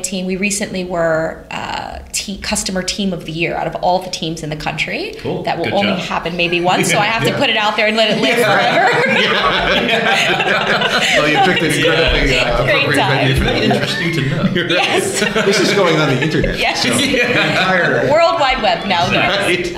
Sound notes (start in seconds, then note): 8.2 laughter